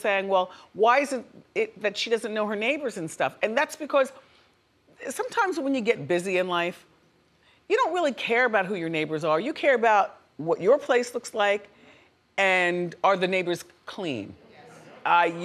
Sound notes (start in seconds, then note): none